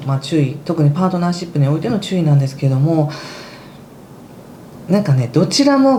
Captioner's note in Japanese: ため息